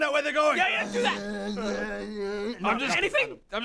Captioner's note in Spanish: ngggghhhhh